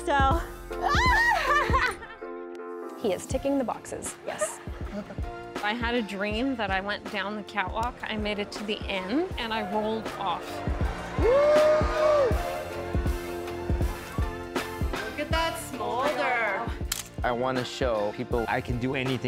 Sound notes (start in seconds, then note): 0.8 girls laughing; 11.1 man cheering